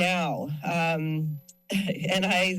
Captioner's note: chuckles